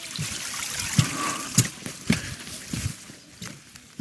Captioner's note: water running